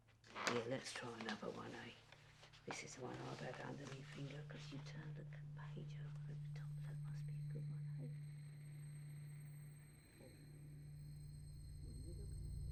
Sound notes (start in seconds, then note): 2.7 voice fades away